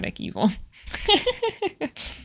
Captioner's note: laughs